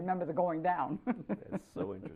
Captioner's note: laughter